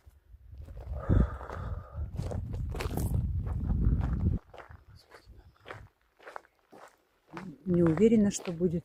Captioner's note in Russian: вздыхает